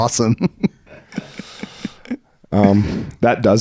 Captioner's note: laughing